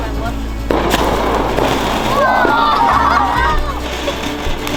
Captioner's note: fireworks